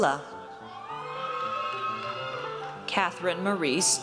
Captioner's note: audience cheers